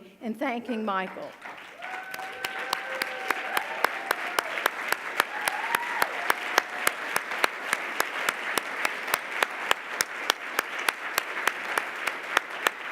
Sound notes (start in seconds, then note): 2.0 audience loudly applauding